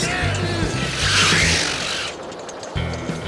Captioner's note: wheels screech